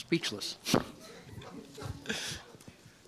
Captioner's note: laughter